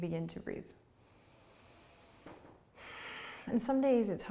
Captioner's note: breathing